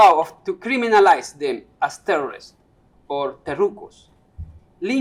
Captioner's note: non-english speech